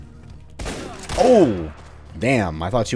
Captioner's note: boom, crack